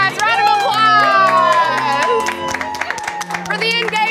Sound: bystanders applaud

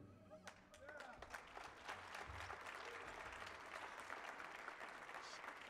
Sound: audience cheers and applauds

